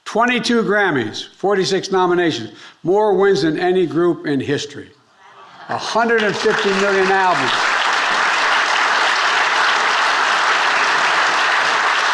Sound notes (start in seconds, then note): 7.7 audience applauding